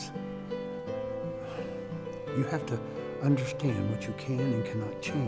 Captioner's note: sighs